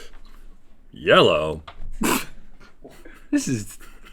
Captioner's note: snorts